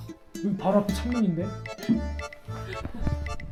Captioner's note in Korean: 깊은 탄식